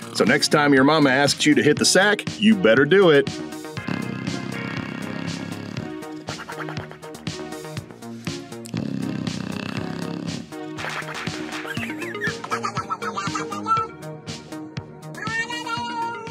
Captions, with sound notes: So next time your mama asks you to hit the sack, you better do it. (dog snoring) (cat chuckling)